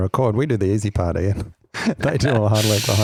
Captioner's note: laughs